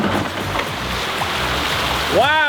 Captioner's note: water pouring